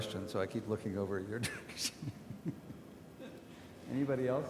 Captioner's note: laughs